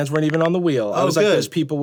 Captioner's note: phone clicking